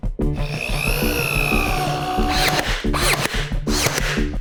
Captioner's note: machines grunting